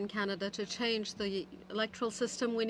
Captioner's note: speaking French